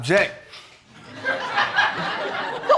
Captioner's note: audience laughing